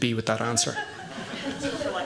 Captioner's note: laughter